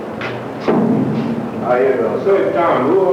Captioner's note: thud